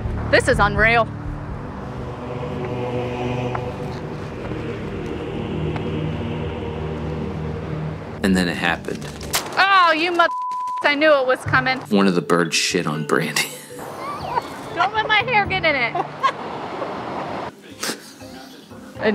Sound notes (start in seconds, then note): 10.2 beep; 13.4 laughing